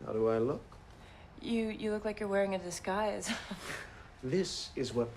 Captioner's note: chuckles